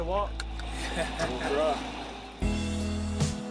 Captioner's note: laughing; upbeat music